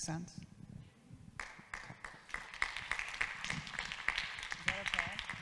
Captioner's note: audience claps